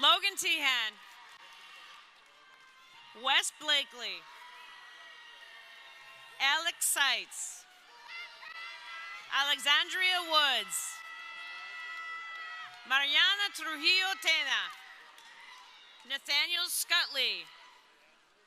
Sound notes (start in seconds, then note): 4.9 crowd cheering; 11.5 crowd cheering